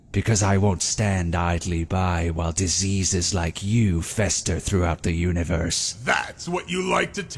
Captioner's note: none